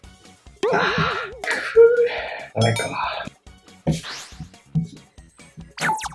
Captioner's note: sigh